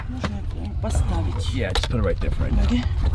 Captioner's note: lady speaking in foreign language